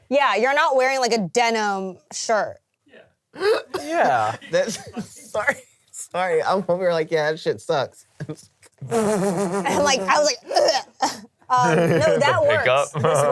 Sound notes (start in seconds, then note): 5.6 laughs; 9.6 laughs; 13.1 laughs